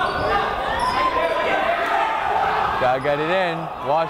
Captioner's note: yelling